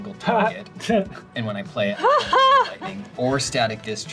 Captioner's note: laugh